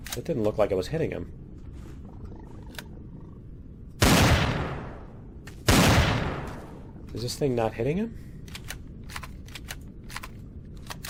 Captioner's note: sniper rifle; explosion